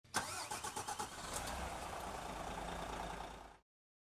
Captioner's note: engine starts